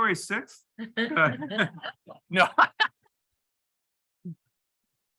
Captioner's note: panelists laughing